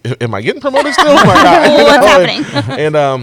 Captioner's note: laughter